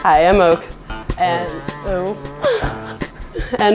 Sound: laughs

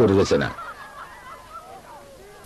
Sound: laughter

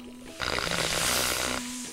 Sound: sizzling

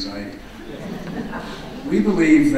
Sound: audience laughing

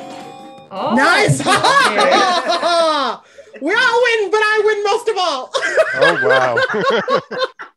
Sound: everyone exclaims

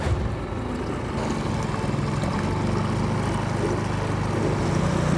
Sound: boat motor roaring

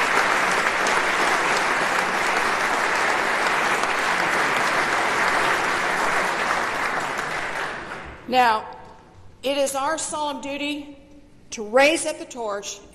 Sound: applause

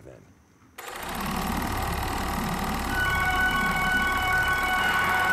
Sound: film projector clicking

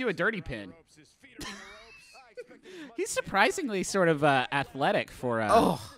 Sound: laughing

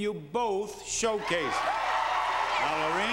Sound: cheering

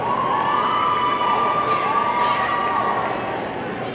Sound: audience cheering

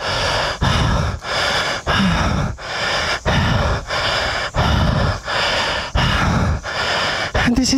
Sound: deep Breathing

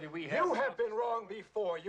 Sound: murmuring

